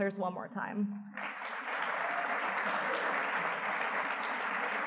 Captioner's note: audience clapping